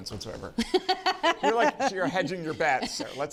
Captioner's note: laughs